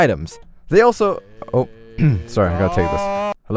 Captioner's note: some animal noises in background; clears throat